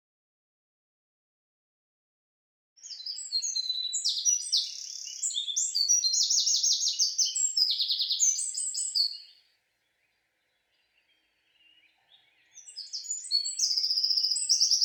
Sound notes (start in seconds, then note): 2.8 birds chirping